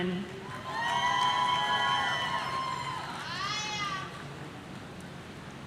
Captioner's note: audience cheering